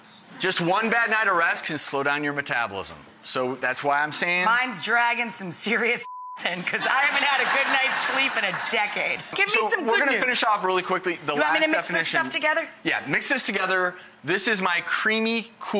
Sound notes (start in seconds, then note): 0.0 audience chuckling; 8.2 audience laughing